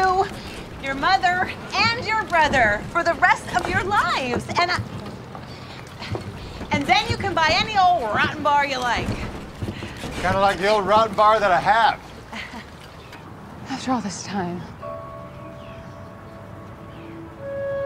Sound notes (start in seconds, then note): 12.3 Tiffany laughs; 16.3 gentle music